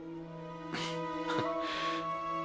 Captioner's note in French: rires